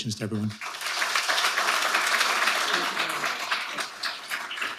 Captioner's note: audience applauding